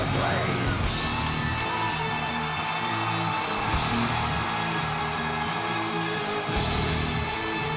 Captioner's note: upbeat music continues; audience continues cheering